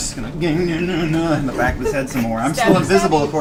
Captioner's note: grunts